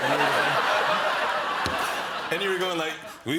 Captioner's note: laughter